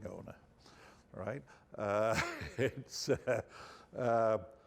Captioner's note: chuckling